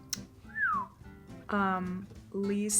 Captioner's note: Jean whistles